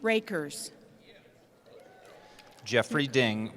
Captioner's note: cheering